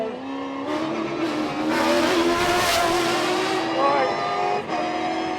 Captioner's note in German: Motor heult auf